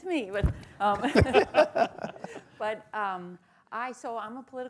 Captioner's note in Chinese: 笑聲